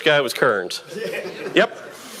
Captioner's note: audience laughing